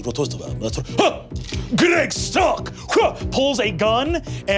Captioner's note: yelps